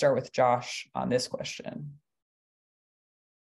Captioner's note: pause